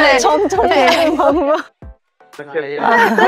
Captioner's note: laughs